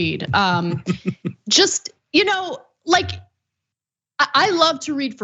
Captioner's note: laugh